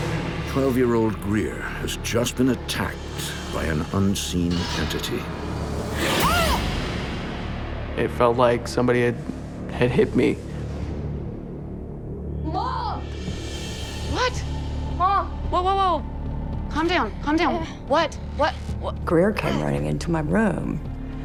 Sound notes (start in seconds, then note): 6.0 pained shouting